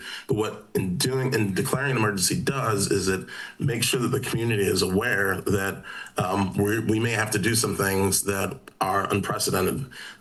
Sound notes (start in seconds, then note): none